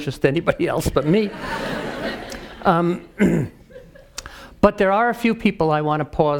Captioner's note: laugh; cough